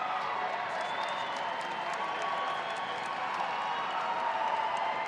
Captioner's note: audience applauding